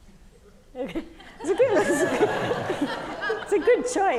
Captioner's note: audience laughing